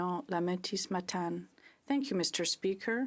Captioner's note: speaking French